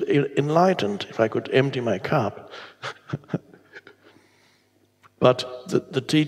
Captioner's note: chuckles